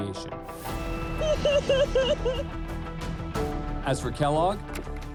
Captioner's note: sobbing